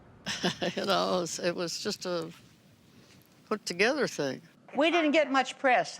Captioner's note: chuckling